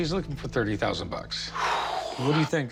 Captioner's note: exhales heavily